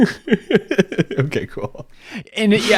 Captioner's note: laughing